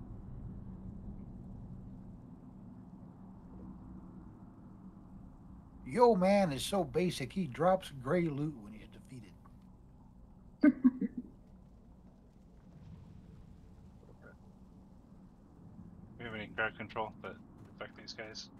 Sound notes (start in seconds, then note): 10.6 laughs